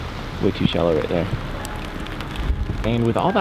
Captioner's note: mild wind and rain sounds